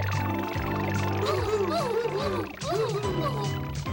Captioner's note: whooping